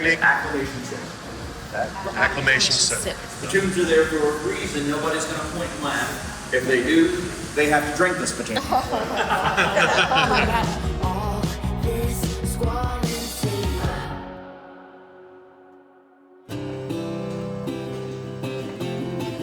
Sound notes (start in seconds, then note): 8.4 all laughing; 16.5 upbeat music